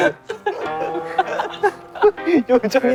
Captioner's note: unable to hold the laughter